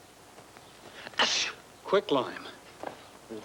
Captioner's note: Sparrow sneezing